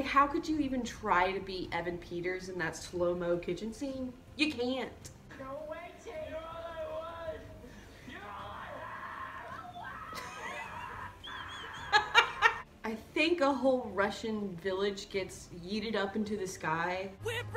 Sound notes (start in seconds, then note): 11.4 screaming